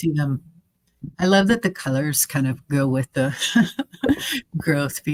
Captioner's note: chuckling